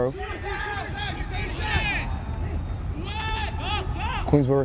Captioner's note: players shouting